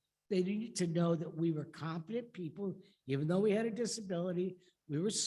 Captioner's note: none